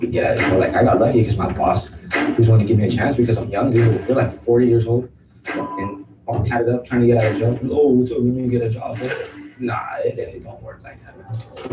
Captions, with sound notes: - Like I got lucky 'cause my boss who was willing to give a chance because I'm young. Dude, but I feel like 40 years old, (beep) all tied up trying to get out of jail. Oh, what's up? Let me get a job. But nah, it don't work like that, man.